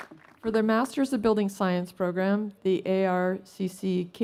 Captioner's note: applause